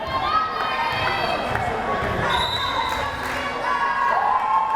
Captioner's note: crowd cheering